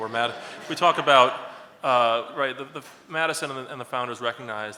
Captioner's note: laughs